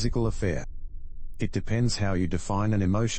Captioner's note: electrical noise